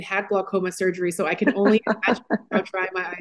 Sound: laughs

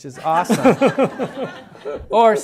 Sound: laughter

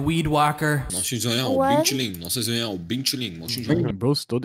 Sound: bing chilling sounds

